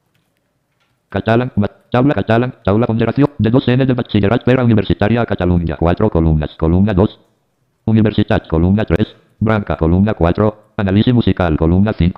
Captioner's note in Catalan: veu del lector de pantalla llegint les columnes